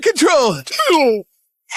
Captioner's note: groans